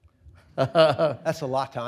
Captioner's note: laughs